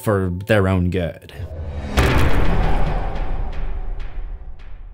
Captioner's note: impact